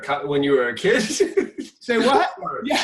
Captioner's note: laughing